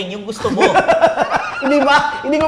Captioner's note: laughs